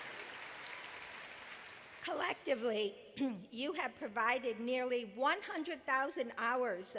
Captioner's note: applause